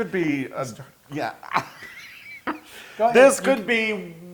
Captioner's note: laugh